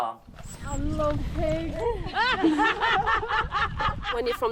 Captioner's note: laughter